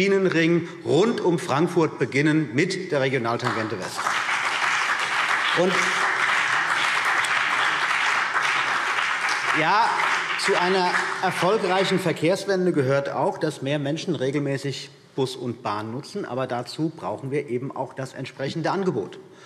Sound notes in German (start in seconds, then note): 3.4 Beifall CDU und BÜNDNIS 90/DIE GRÜNEN